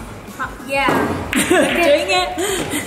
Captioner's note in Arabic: يضحك كريستال